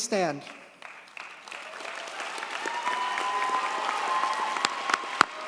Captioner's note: audience cheers and applauds